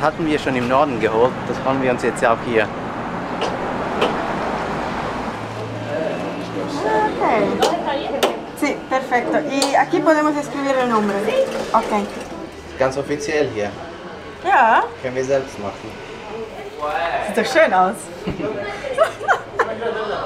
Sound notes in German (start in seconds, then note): 8.8 auf Spanisch; 18.6 Lachen